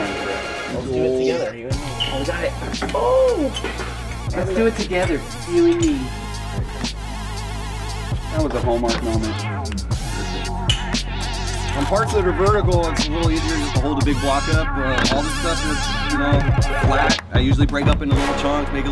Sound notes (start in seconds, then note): 3.4 cheers; 6.7 dramatic music; 10.7 dramatic music